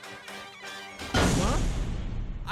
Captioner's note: door Closes SFX